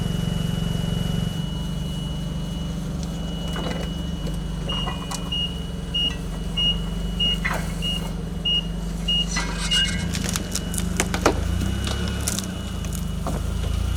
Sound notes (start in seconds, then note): 5.2 forks scraping; 8.4 fork truck beeping; 9.3 chains rattling; 10.3 fork truck beeping